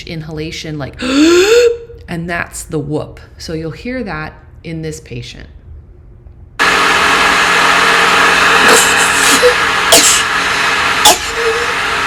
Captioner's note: gasp